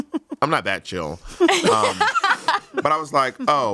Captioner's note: everyone laughs